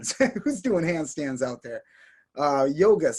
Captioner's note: chuckles